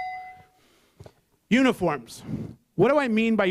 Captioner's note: bell